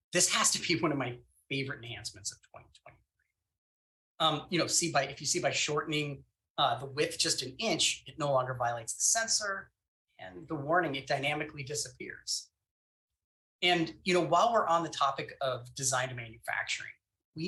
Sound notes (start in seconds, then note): none